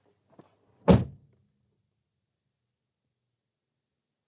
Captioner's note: door slamming